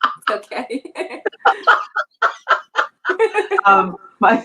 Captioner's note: laughing